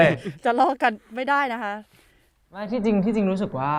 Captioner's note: laugh